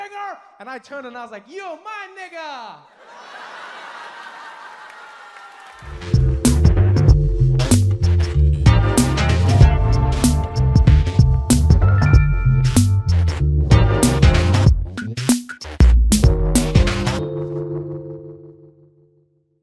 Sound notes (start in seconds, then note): 2.9 crowd laughing; 6.4 upbeat music